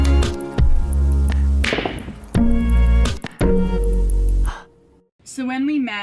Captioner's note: exhaling